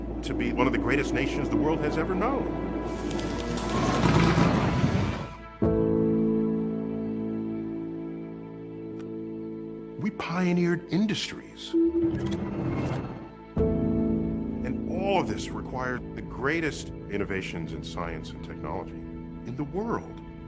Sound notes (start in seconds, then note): 3.3 machines whirring